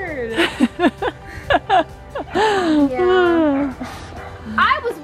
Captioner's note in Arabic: يضحك